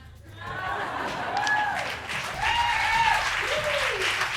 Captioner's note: crowd laughs and cheers